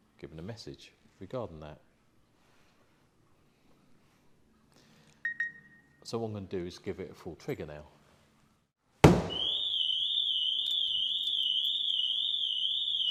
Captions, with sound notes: given a message regarding that (Phone - beep beep) so what I am going to do is give it a full trigger (thumps back of van - alarm goes off)